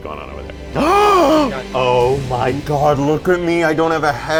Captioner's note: gasps